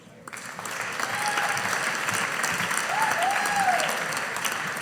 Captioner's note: audience applauding